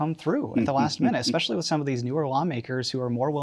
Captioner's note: laughing